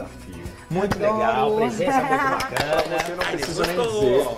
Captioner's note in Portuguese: Inês bate palmas